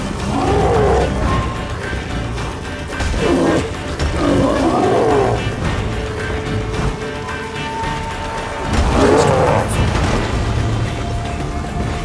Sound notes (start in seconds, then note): 0.8 growl; 9.4 roar